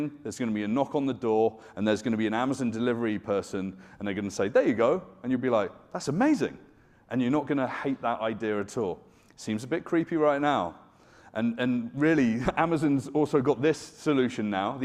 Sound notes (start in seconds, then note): none